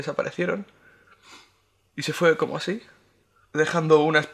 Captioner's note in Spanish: none